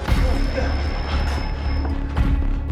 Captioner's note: alarm blares